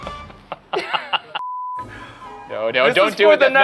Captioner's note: laughing; screen beeping